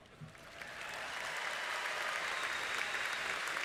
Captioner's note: applause